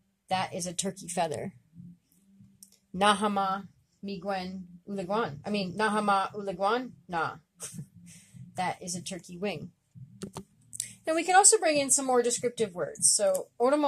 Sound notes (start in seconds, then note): 5.2 speaking Abenaki Language